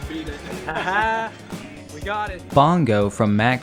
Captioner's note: laughter